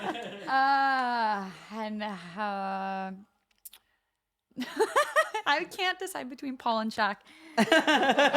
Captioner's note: laugh